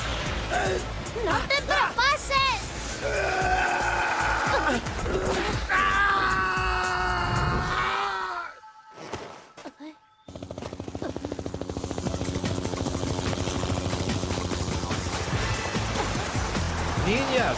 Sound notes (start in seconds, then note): 11.1 chopper blades whirring